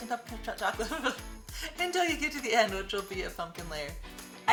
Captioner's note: laughs